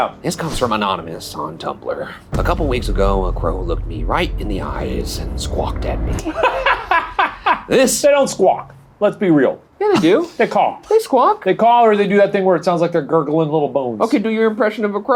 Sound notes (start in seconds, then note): 7.9 laughing